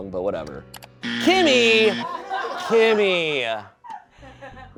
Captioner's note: buzzer blares